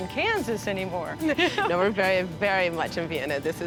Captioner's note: laughs